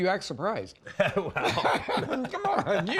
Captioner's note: laughs